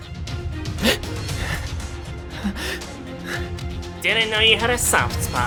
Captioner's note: sob